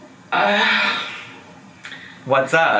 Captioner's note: woman sighing